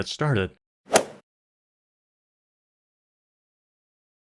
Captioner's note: golf ball hit sound